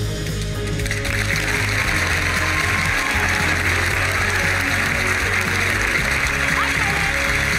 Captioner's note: cheering and applause